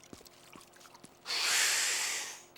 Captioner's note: exhaling loudly